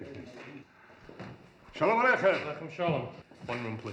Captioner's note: greeting in hebrew